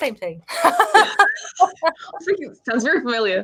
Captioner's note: woman laughing